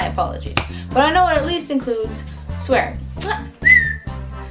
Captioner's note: huh, whistle